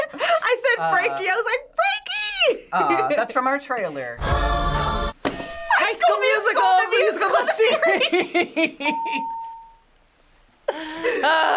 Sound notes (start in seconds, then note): 5.4 bells ring; 10.8 laughs